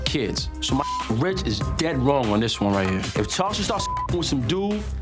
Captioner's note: beep